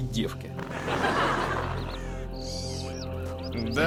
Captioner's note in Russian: закадровый смех неудачно спасает ситуацию